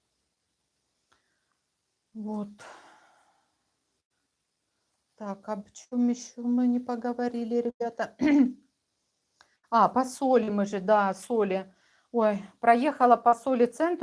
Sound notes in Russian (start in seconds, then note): 7.5 откашливается